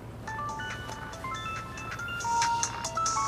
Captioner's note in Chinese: 來電鈴聲